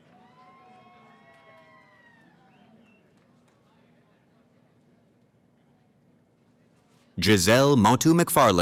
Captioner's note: cheering